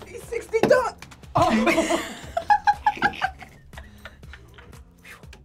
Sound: both laugh

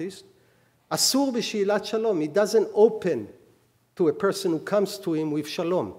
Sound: speaking hebrew

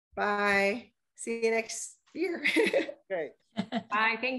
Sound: laughs

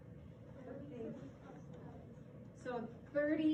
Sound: student chatting

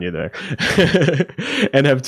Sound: laughing

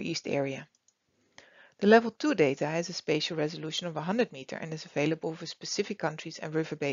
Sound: click

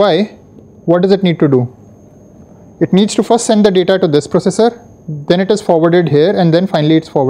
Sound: static

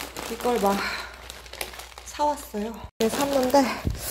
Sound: gasping

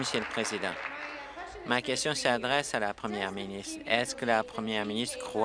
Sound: applause

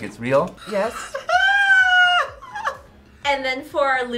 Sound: laughs

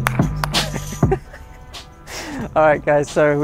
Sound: laughing

